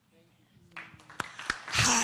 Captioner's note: applause